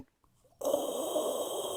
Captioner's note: breathing